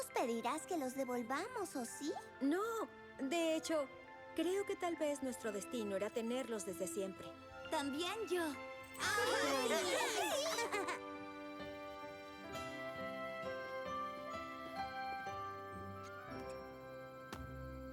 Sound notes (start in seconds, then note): 9.0 excited chatter